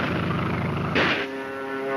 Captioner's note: gunshot; airplane engine roaring